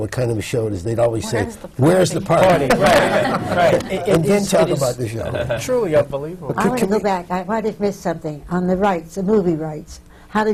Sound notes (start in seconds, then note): 2.7 laughter